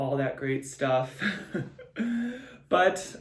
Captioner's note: giggles